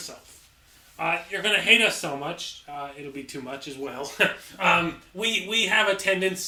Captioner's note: chuckle